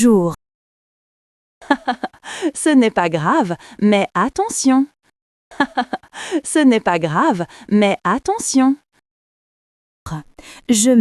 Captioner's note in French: rire